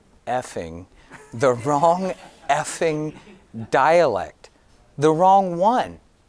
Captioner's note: audience giggling